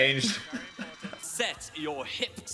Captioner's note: Dan laughs